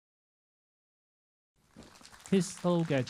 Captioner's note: applauds